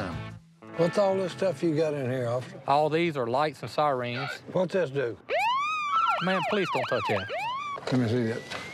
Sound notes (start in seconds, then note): 5.2 siren wails